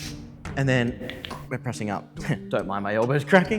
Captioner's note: crack